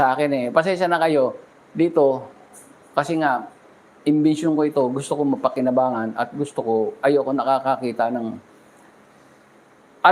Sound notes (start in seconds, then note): none